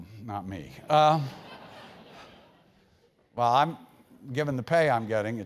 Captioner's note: laugh